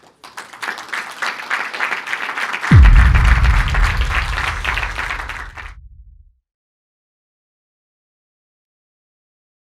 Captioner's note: applause